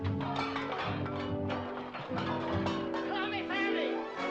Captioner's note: metallic clanking